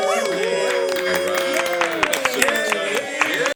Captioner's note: cheers and applause